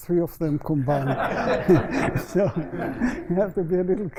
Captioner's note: laughter